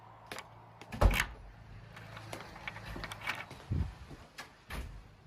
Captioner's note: door Locking